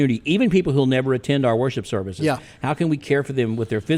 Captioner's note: none